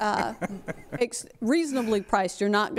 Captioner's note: laughter